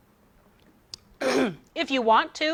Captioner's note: clears throat